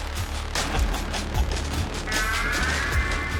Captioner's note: laughing